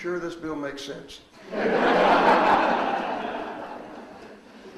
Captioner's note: audience laughs